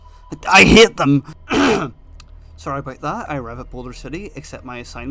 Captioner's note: coughs